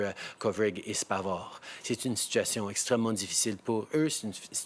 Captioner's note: speaking in French